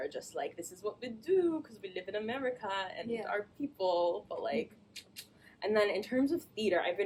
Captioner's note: clicks tongue